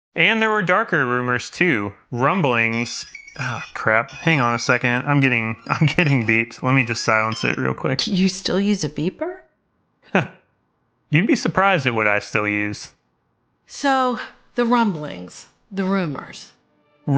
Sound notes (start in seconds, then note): 2.2 beeper chimes